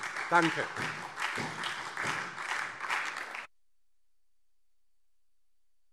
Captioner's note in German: Beifall DIE LINKE und SPD